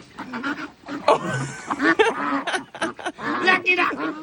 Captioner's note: laughing